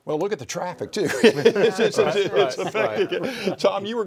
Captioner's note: all laugh and talk indistinctly